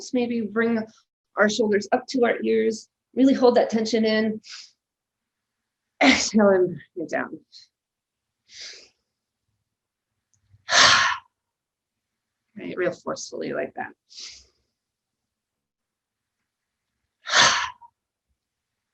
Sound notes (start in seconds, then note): 4.5 inhales; 8.5 exhales; 8.5 inhales deeply and exhales sharply; 14.4 inhales deeply and exhales sharply